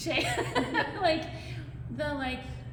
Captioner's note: laughter